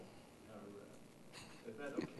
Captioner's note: chuckles